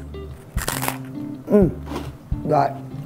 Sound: bread crunches

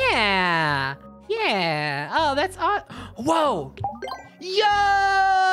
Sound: gasps

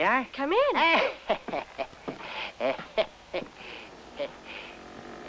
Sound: laughter

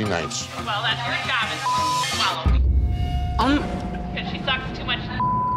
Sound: beep; beep

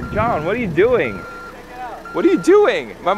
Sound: truck in reverse

